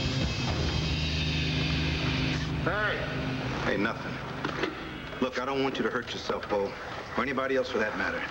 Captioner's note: engine turns off